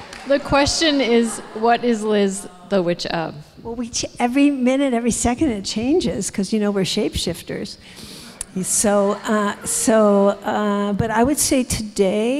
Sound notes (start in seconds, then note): 8.4 audience laughs